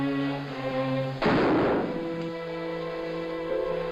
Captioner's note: gun fires